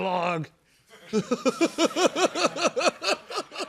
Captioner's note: laughter